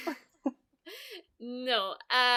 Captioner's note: all laugh